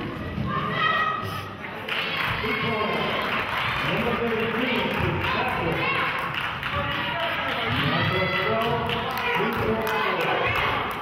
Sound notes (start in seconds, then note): 2.7 cheering and clapping; 3.0 clapping